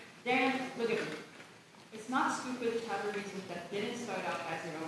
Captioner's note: none